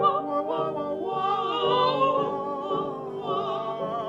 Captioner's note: all vocalizing